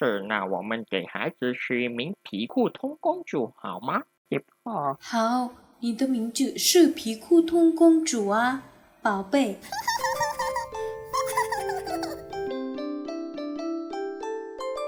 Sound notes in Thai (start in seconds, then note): 9.6 เสียงเด็กหัวเราะ